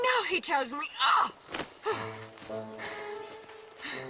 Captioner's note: huffing; playful music